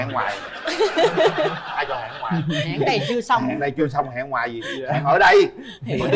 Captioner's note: laughter